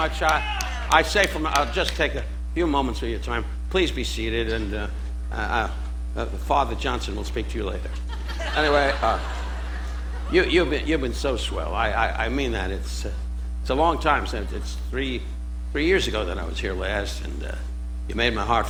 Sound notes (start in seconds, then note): 7.8 audience laughing